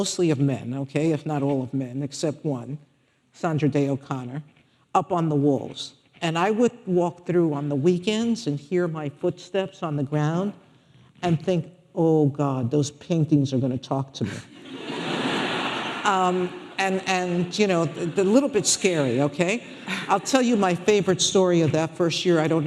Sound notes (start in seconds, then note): 14.5 audience laughing